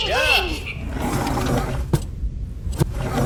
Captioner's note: distant cheering; door opening; door closing